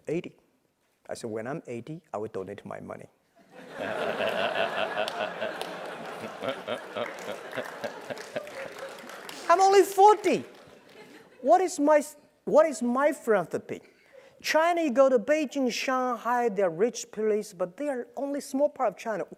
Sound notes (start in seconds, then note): 3.5 laugh